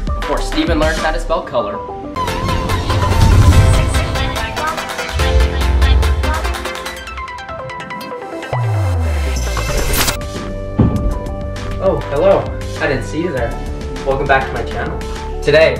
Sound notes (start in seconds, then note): 2.2 intense electronic sound effect; 10.3 calm electronic music